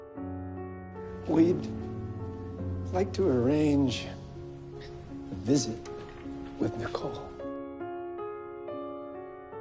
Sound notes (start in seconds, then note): 1.7 voiceover